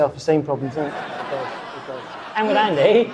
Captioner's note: audience laughing